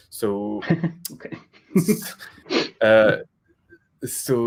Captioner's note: laughter